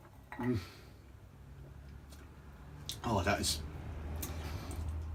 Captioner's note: sighing